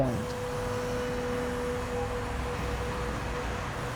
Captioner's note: traffic humming